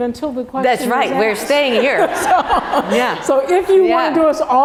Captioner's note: laugh